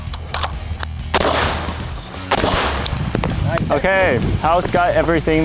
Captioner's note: gun banging